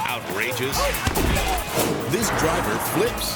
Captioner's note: person thuds